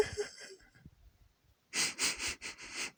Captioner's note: crying